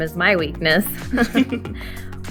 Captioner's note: chuckles